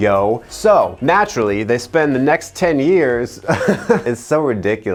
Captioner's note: chuckles